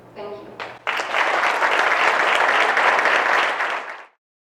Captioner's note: crowd claps